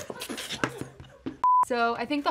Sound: laughs; TV beeps

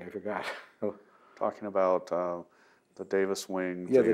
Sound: laughs

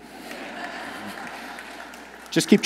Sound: audience laughs

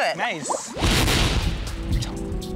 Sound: bang

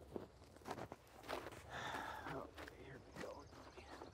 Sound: footsteps crunching

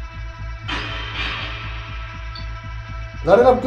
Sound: radio noise reverberating

